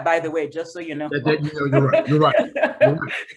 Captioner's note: laughs